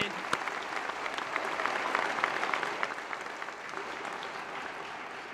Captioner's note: applause